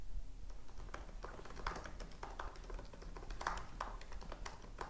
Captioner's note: keyboard clacks